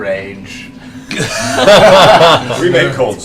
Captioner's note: laughter